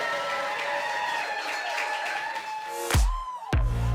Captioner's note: audience cheering; upbeat music playing